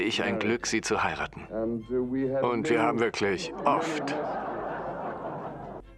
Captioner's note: audience laughs